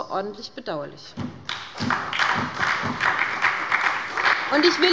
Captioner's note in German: Beifall bei der SPD